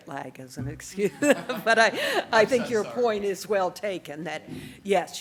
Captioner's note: laughs